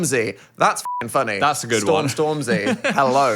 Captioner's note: beep